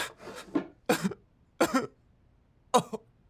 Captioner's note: crying